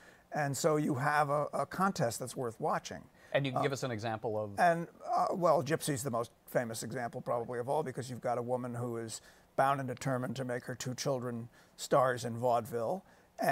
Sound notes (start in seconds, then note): none